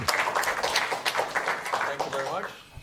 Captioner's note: applause